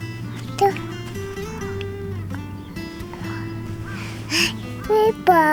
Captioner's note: laughs